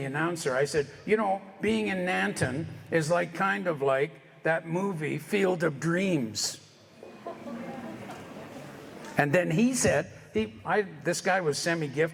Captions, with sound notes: I said, "You know, being in Nanton is like, kind of like that movie, "Field of Dreams." [Audience laughter] And then he said, this guy was Lorn McGinnis.